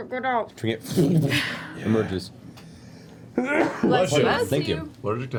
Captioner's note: sneezes